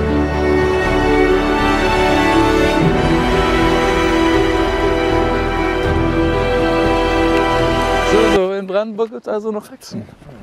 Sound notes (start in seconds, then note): none